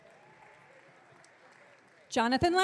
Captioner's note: audience cheering